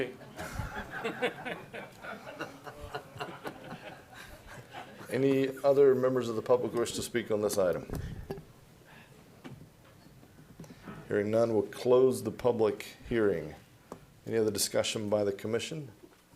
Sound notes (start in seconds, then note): 2.1 laughter